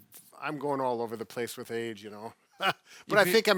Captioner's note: chuckles